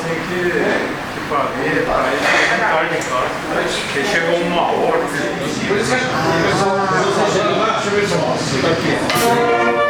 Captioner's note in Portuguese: som de conversas ao fundo